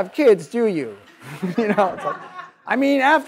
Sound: audience laughs

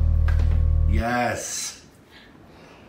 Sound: male Voice

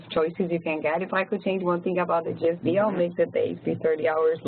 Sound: laugh

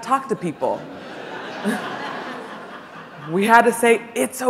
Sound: audience laughing

